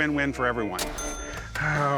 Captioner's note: cash register chime